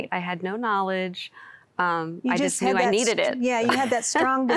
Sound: giggling

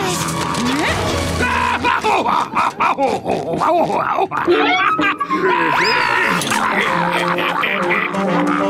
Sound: laughing

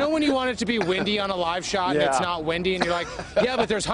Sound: laughter

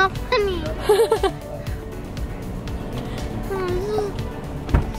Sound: laughs

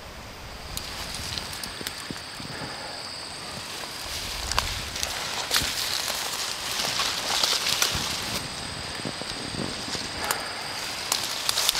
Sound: crickets chirping, leaves crunching

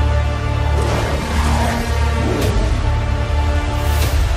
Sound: wolves snarling

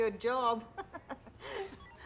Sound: laughing

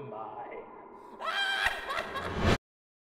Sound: echoey manic laughter

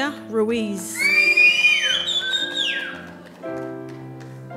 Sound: cheering

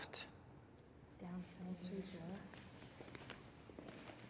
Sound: footsteps

